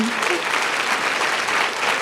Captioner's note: applause